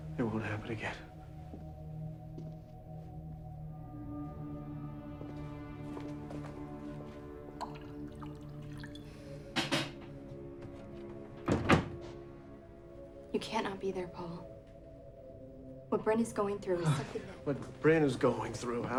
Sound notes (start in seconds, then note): 2.6 tense music; 7.5 whiskey glugging; 11.4 closer door thuds